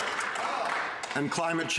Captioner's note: some Applause